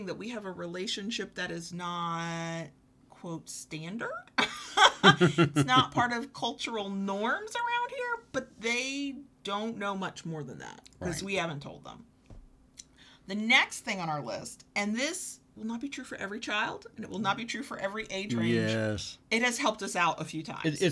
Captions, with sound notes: that we have a relationship that is not "standard." (laugh) It's not part of cultural norms around here, but they, don't know much more than that. - Right. - 'Cause we haven't told them. The next thing on our list, and this, will not be true for every child, and it will not be true for every age range. - Yes. - It has helped us out a few times.